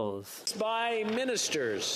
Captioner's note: speaking French